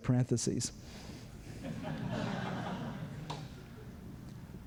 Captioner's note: laughter